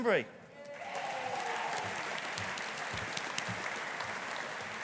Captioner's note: audience applauding